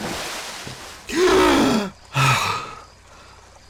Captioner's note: Apollo gasps for air